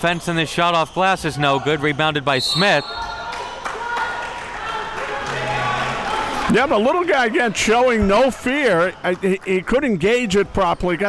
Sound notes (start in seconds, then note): 3.3 applause